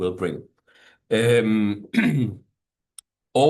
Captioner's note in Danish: clears throat